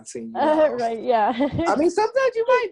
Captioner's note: chuckles